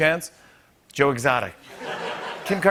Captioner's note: laughter